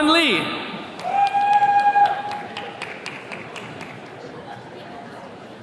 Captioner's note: attendees cheering